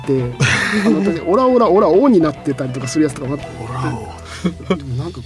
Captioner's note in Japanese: 笑い